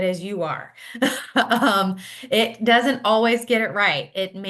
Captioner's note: laughs